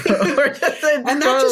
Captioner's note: laughter